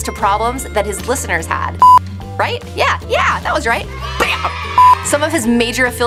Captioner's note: beep